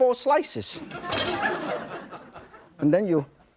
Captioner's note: audience laughing